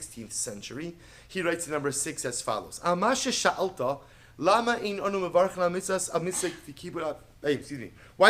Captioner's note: Hebrew